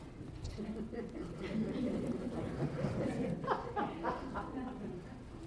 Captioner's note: laughter